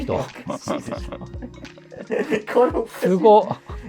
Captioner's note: laughing